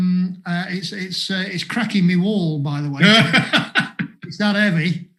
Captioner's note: laughs